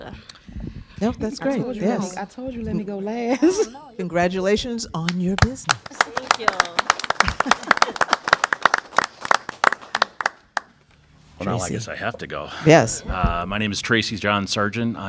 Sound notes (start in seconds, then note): 3.3 laughter; 9.6 applause